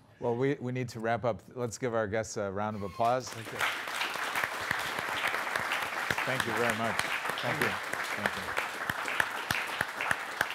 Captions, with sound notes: Well we need to wrap up, let's give our guests a round of applause. [APPLAUSE] Thank you very much, thank you.